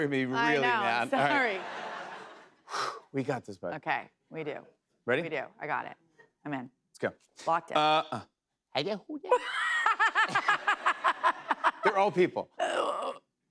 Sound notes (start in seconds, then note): 1.2 laughter; 2.6 breathes deeply; 9.3 laughter